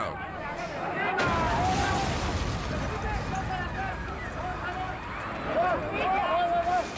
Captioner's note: people yelling; helicopter imploding